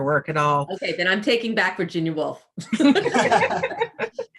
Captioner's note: laughs